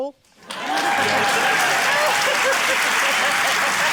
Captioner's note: cheering, applause